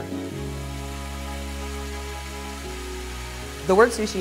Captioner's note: water rushes